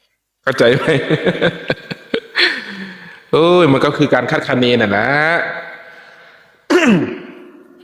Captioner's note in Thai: เสียงหัวเราะ